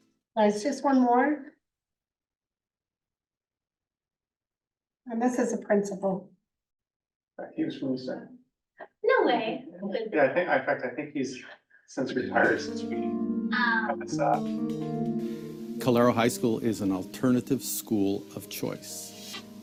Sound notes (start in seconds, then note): 13.3 muffled voice